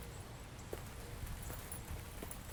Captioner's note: birds chirping